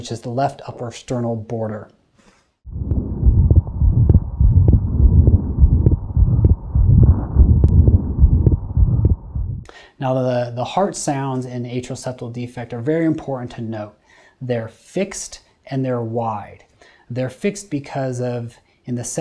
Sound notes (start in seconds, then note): 2.6 heart beating